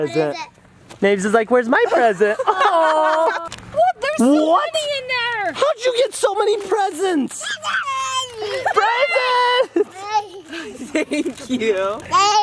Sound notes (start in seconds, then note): 2.3 people awing; 7.4 squeals excitedly; 12.1 babbles